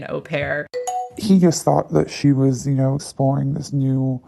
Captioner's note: bingbong